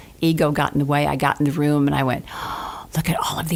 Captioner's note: gasps